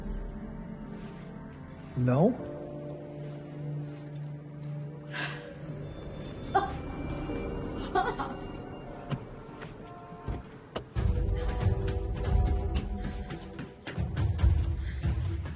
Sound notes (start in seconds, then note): 5.1 Lily laughing; 10.4 tense music